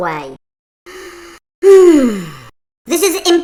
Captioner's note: sigh